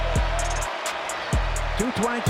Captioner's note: crowd cheering